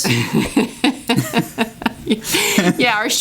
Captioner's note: laughing